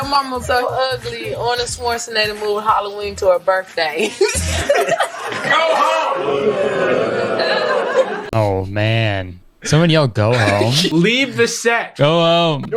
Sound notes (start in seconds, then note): 6.8 crowd boos